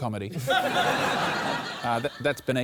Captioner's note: laughter